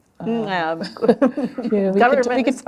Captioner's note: laughter